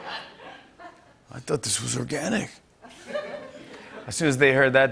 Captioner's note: laughter; laughter